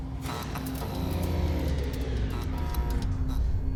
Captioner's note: machines power down; electricity crackling